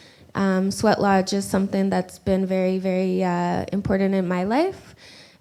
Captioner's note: none